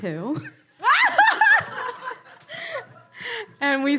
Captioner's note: audience laughter